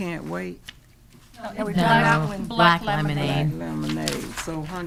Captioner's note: speaking quietly